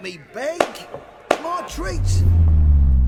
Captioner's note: hands clap